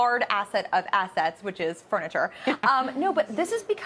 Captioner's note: laughter